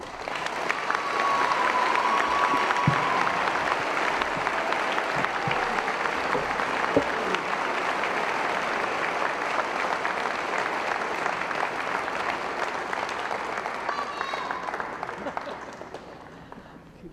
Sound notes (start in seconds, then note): 0.3 cheering & Applause; 3.8 applause; 14.9 laughter & Applause